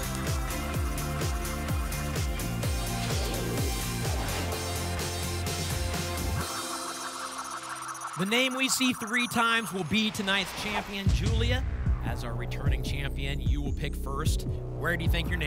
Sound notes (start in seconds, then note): 2.7 whoosh; 6.4 spinning sounds